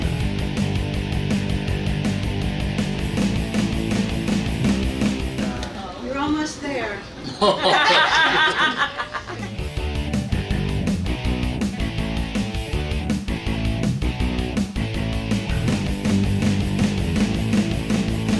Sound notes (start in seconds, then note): 7.2 laughing